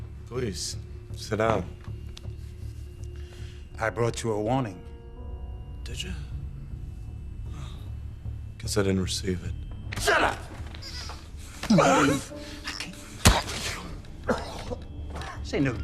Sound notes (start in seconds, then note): 11.5 choking; 14.2 coughing